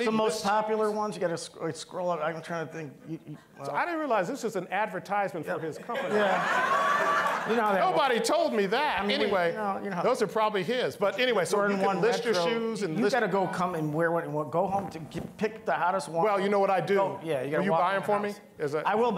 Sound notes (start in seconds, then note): 5.6 all laughing